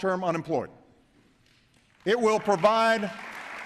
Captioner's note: applause